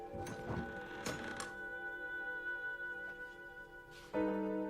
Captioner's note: eerie music playing; door creaks open